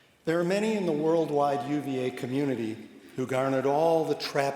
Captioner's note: none